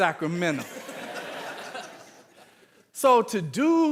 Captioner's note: audience laughing